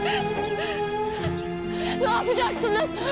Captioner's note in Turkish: ağlıyor